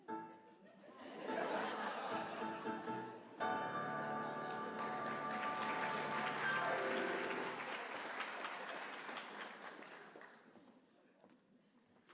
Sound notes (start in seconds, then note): 2.0 applause; 2.0 laughter